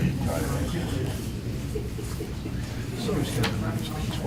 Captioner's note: chattering